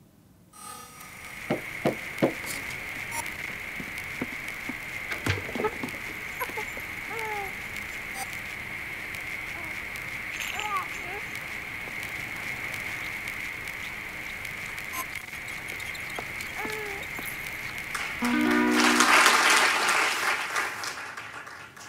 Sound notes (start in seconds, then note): 10.4 cooing; 18.5 audience applauding